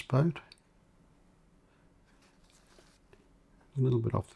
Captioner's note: silence